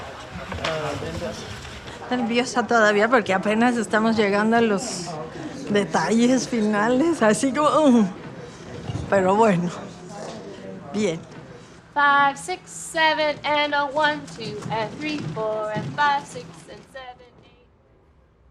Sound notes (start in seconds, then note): 2.0 speaks Spanish